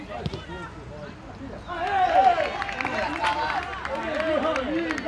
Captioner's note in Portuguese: gritos de gol